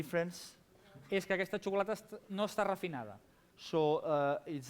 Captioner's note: non-english speech